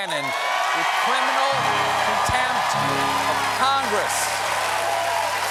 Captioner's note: cheers and applause